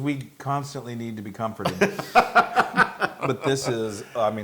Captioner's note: laugh